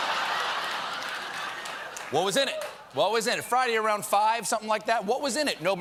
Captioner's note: laughter